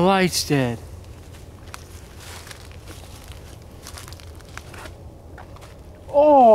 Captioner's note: rustling